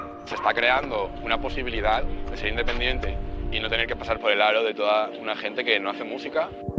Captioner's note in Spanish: voz en off